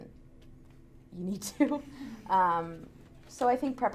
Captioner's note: laughs